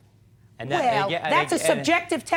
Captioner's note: scoffs